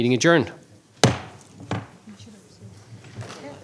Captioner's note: bang